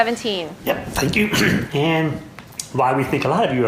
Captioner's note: clears throat